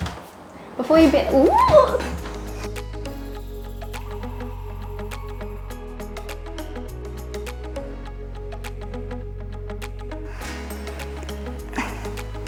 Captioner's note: bloops; squeals